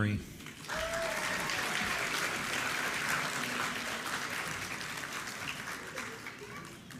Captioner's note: applause